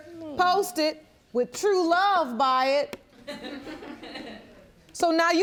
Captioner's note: audience tittering